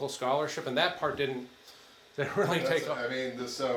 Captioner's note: chuckling